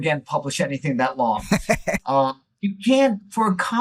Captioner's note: laughing